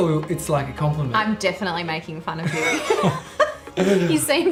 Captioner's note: laughing